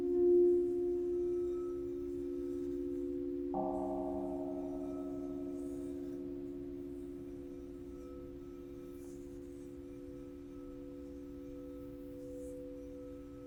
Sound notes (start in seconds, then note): 3.5 gong rings; 10.3 bell tones resume